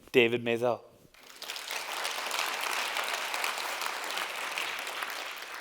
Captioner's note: applause